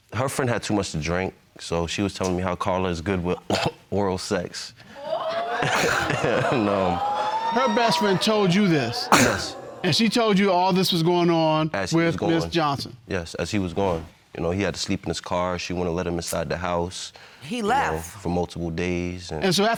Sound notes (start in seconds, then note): 4.8 chuckles; 4.9 coughs